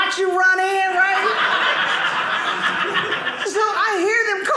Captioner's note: audience laughing